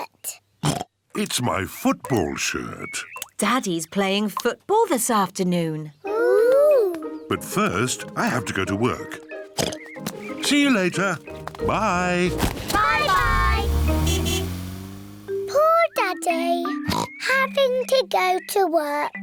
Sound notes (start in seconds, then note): 0.6 oinks; 9.6 oinks; 11.6 toots horn; 16.8 oinks